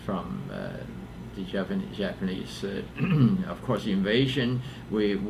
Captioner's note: clears throat